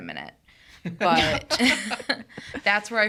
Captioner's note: everyone chuckling